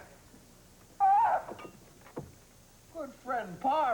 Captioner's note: screams